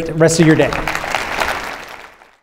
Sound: audience applauding

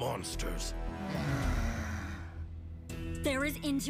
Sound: sighing

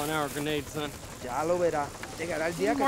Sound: spanish

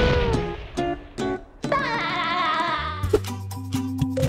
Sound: laughing

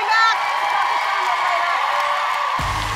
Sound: applause

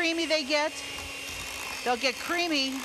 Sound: mixer mixing

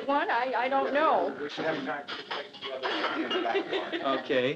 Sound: laughs

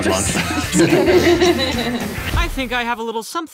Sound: laughing

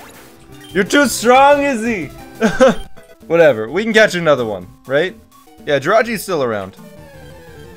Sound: laughs

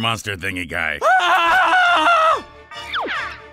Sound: screaming

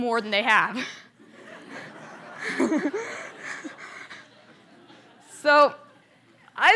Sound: laughter

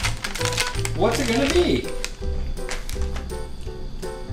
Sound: voiceover

